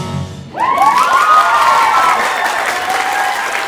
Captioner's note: applause